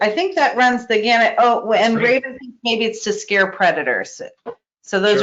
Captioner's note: static